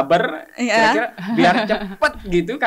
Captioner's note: laughs